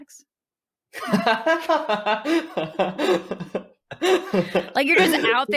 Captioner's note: laughing